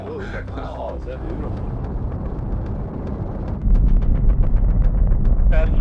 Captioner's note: rocket engine roaring